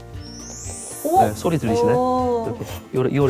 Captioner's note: sound that makes you excited